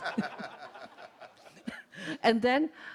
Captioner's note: laughs